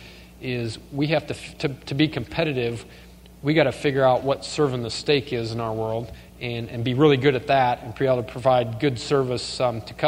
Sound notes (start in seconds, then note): none